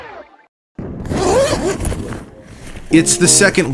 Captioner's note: bag zipping